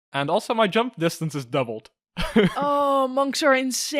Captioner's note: laughs